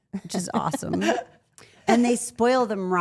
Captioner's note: Rhea laughs